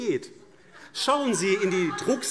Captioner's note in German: Lachen und Zurufe BÜNDNIS 90/DIE GRÜNEN